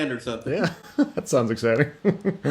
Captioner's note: laughs